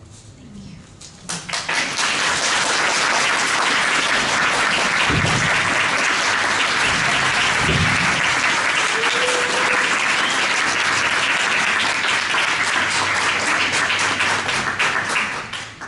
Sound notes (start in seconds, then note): 1.2 applause